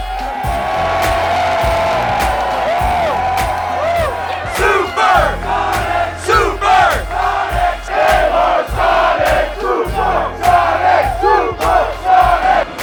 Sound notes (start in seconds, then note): 0.7 cheering